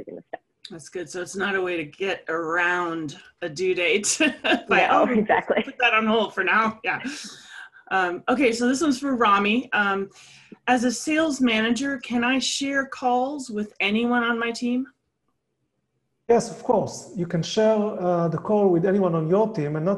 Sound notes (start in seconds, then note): 4.6 laugh